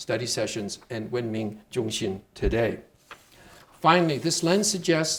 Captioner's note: speaking Chinese